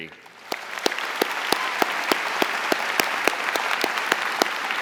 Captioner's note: audience applauding